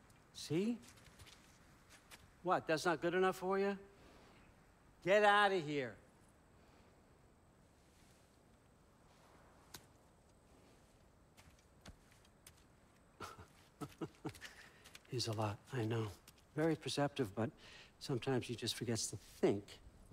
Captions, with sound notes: See? What, that’s not good enough for ya? Get outta here! (laughs) He’s a lot, I know... ...very perceptive, but... ...sometimes he just forgets to THINK...